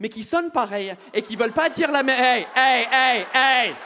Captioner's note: audience exclaims